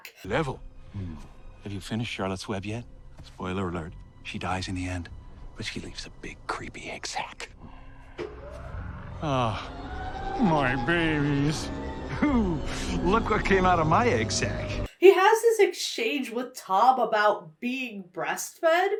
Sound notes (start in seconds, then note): 7.6 Eggman growls; 8.0 drones powering up